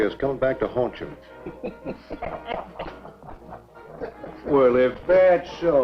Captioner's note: all laughing